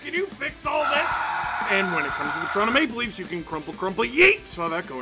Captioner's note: screaming